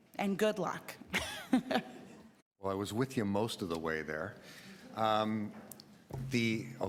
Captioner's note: chuckles